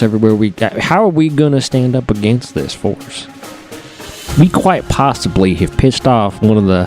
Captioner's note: none